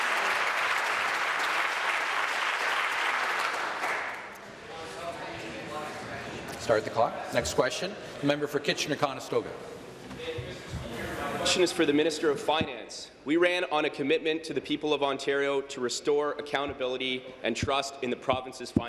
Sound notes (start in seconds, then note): 0.0 applause